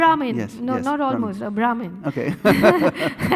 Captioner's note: laughing